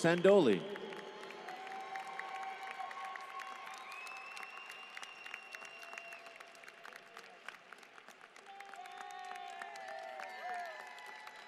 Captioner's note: applause